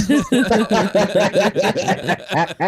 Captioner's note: everyone Laughs